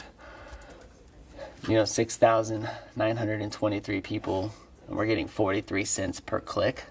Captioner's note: none